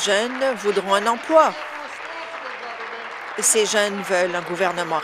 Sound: applause

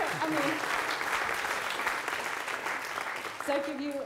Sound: applause

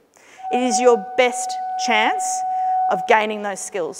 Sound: alarm blaring

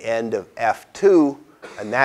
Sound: cough

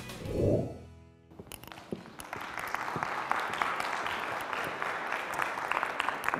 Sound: applause

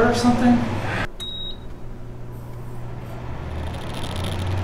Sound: device beeps

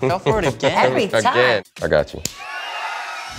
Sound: crowd cheering

